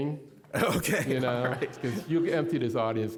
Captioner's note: all laughing